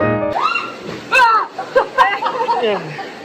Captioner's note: distant screams